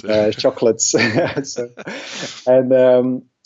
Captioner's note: laughs